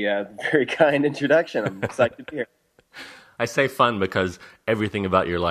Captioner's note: laughs